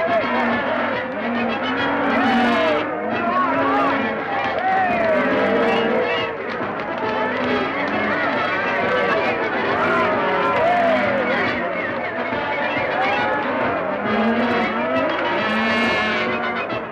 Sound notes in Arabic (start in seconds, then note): 7.7 يستمر الهتاف; 13.2 تستمر الموسيقى المبهجة